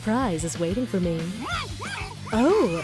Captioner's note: muffled distressed noises